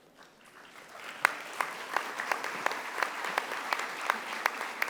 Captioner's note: audience applauding